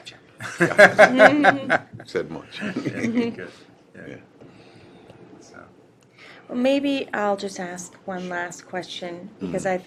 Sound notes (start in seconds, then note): 0.4 laughter